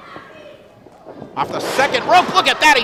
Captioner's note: thud